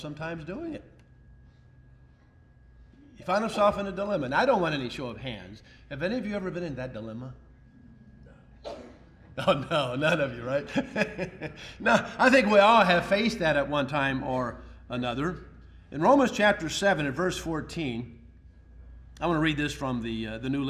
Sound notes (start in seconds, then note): 9.3 ha ha